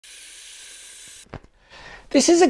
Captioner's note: breath whooshing